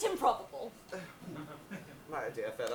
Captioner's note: audience laughs